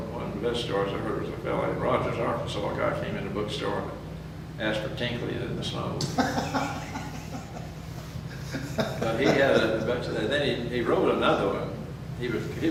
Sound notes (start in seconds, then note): 6.0 laughs